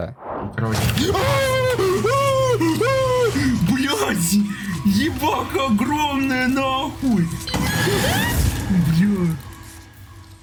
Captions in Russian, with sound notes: [Звуки страха] БЛЯТЬ! Ебака огромная нахуй! [Крики] Бля...